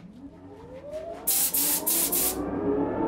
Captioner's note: machine noise, hiss